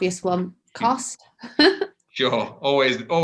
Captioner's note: laughs